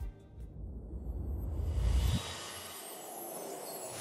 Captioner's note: whooshing